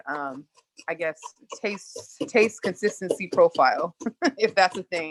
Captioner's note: laughs